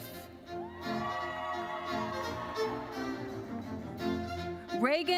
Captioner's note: audience cheering